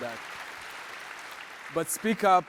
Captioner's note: audience applauds